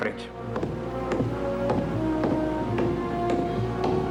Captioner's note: footsteps Receding